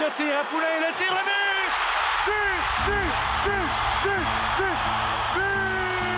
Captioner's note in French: cris des spectateurs